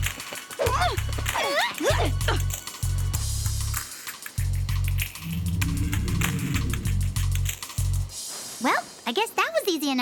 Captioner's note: grunting